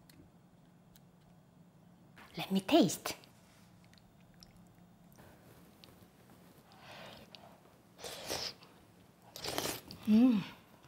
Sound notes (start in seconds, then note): 8.0 slurping